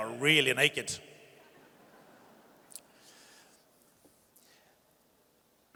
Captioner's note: audience chuckles